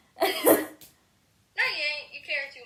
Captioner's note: laughs